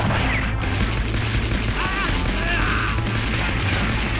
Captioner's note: fireballs shooting